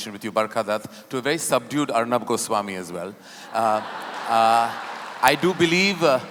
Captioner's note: laughter/Applause